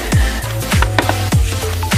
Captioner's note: taps Cards